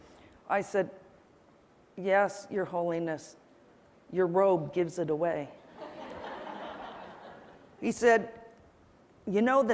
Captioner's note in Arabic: ضحك